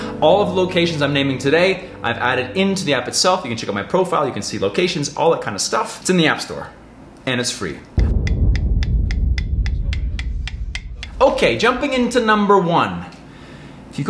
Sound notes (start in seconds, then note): 8.6 tapping sound